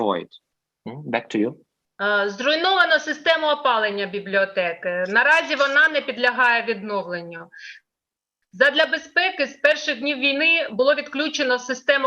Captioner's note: foreign Language